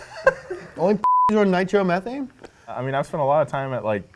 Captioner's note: beep